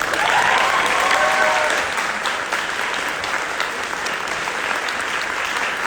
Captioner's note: audience applauding